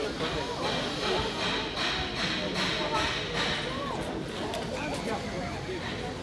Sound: distant hammering, people murmuring

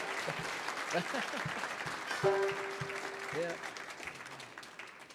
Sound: audience cheering

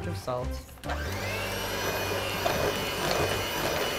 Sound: mixer whirring

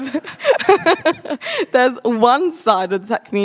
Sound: laughs

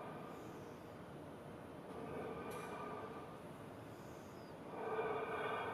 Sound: rhythmic breathing continues

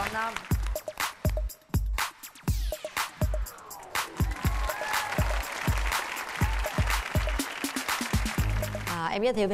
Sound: applause

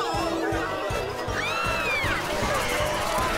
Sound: screaming

